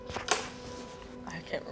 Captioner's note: board clicking